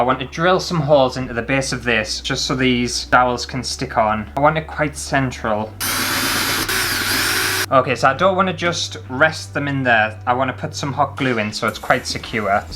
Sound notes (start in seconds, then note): 5.8 drill Sounds